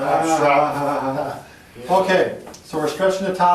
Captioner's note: chuckles